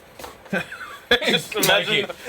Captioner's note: laughing